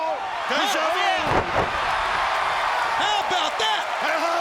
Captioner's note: audience cheers